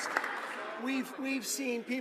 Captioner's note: some Applause